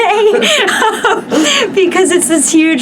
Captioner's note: laugh